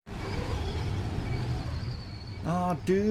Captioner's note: wind